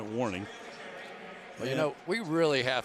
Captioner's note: pa announcement